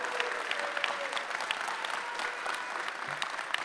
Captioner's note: cheering